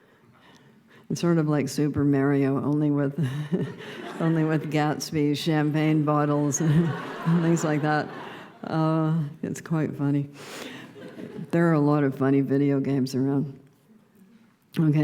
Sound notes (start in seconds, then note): 3.4 laughter; 6.5 loud laughter